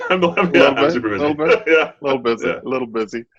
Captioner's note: laughing